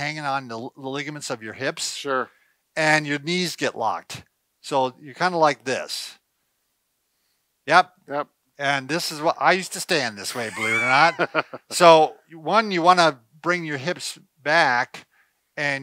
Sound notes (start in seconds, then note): 10.3 laughs